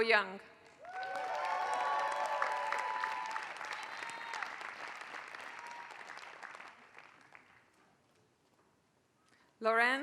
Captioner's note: applause